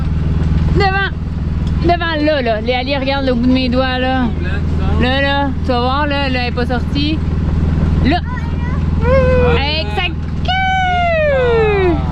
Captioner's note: exclamations!